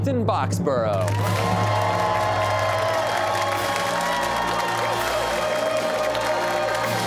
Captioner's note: cheers and applause